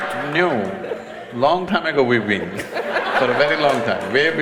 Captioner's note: laughter/Applause; applause